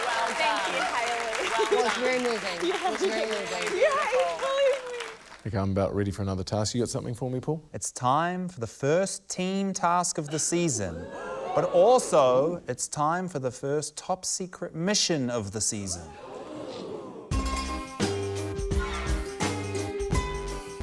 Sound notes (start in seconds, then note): 10.8 audience whoops, gasps; 17.3 quirky, tinny music